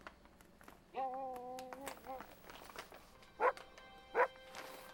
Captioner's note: Buck barking